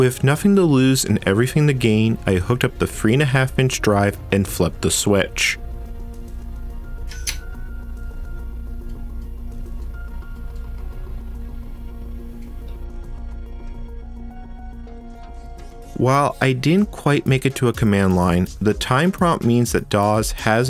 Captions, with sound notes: With nothing to lose, and everything to gain, I hooked up the 3.5” drive, and flipped the switch ... *system startup sounds* While I didn’t quite make it to a command line, the time prompt does mean that DOS has